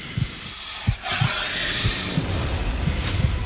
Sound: snake hissing

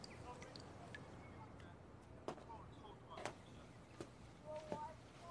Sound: people chattering outside

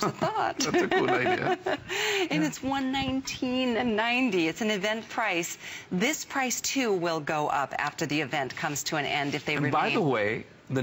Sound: laughter

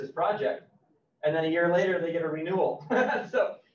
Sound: laughs

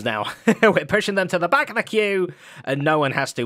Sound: chuckles

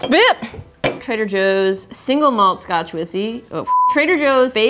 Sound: beeping

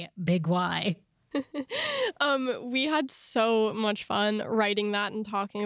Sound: laughs

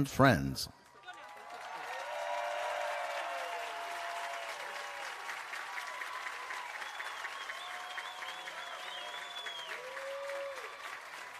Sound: applause and Cheering

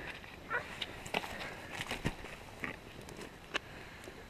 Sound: fire crackles

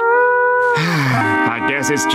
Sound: sighing

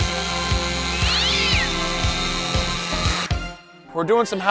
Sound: chainsaw buzzing; cat yowling

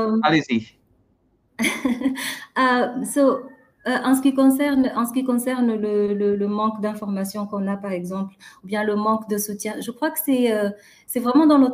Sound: chuckles; speaking french

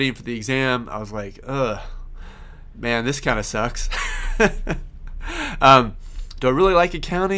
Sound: laughs

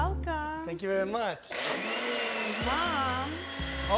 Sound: blender whirring

